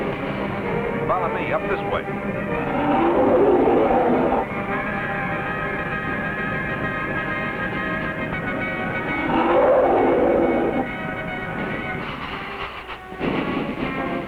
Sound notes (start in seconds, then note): 2.6 creature growling; 4.5 thrilling music